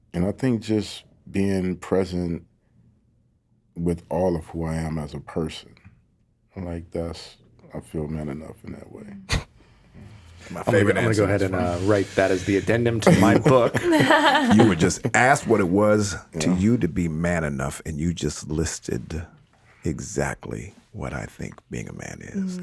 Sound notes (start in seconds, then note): 14.0 all laughing